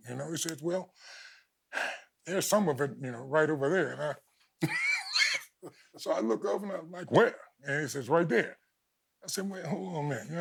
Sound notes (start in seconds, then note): 4.6 chuckles